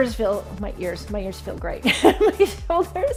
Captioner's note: laughs